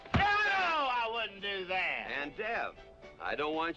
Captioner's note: groans